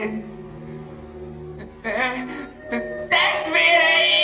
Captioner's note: wailing